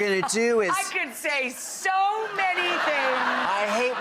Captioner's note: audience laughs